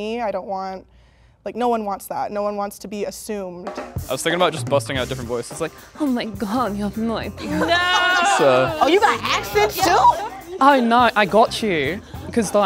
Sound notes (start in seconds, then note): 5.8 breathy Russian female voice; 7.4 laughter; 10.8 Australian accent